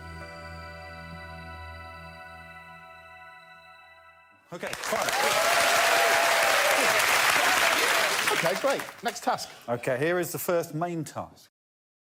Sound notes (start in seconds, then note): 0.0 music fades out; 4.5 applause